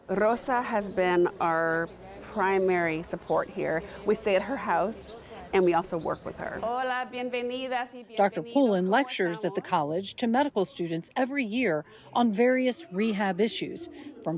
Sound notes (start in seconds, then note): 6.7 speaking in foreign language